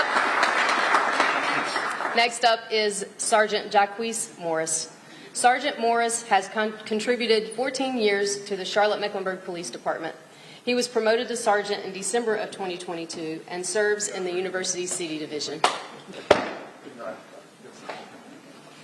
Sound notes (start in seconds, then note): 2.1 applause